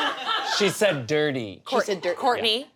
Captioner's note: audience laughs